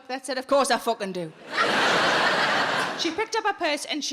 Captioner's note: audience laughing